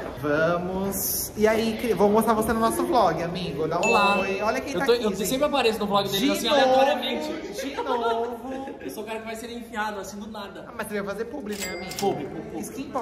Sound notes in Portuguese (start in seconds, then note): 7.4 risos